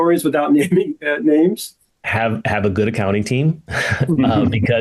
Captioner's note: laughs